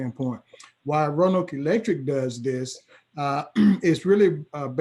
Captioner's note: clears throat